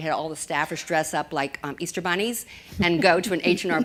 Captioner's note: laughter